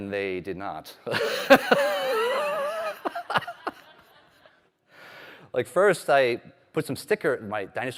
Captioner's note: laughter